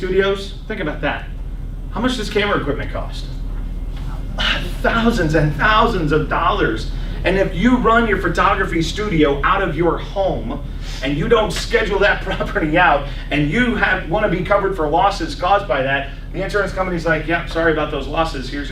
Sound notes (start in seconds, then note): 5.4 laughs